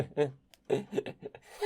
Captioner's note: chuckling; fully laughing; giggling